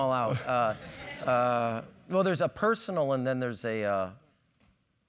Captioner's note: laugh